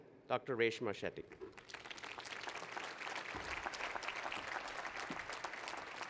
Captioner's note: applause